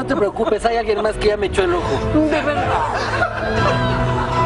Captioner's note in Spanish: risas